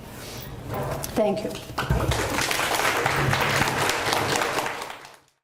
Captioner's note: audience applauds